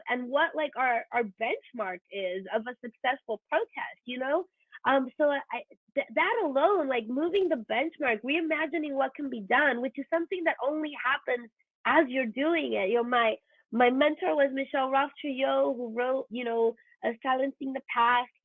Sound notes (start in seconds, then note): none